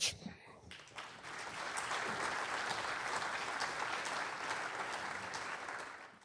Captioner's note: applause